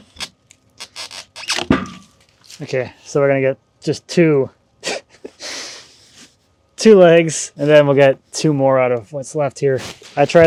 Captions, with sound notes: (metal clanks) Okay, so we're gonna get just two, (chuckles) two legs, and then we'll get two more out of what's left here.